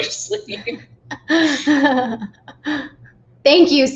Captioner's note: laughing